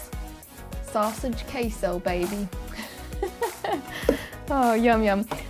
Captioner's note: laughs